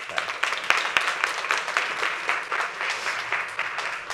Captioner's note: audience applauding